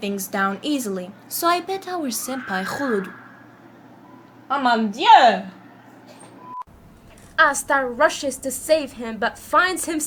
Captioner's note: a screaming background sound